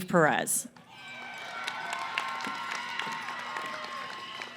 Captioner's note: cheering & applause